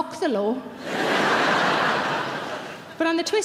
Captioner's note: audience laughing